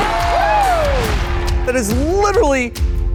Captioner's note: applause